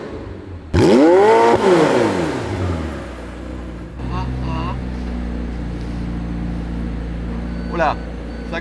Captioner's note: engine revving